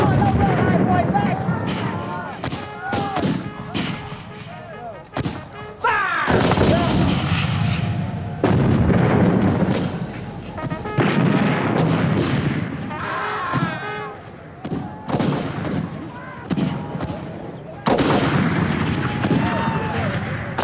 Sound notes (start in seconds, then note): 0.0 booming; 3.2 guns bang; 3.2 horn trumpeting; 6.2 guns bang; 9.2 booming; 12.0 guns bang; 12.0 horn trumpeting; 13.5 yelling; 15.5 guns bang